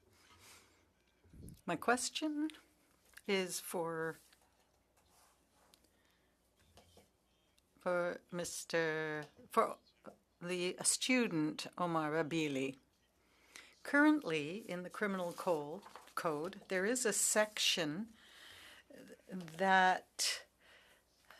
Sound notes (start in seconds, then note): 4.0 speaking French